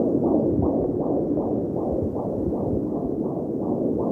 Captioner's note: heart beating